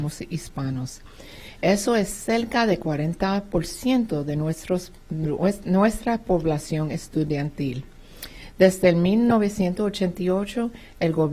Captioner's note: speaking spanish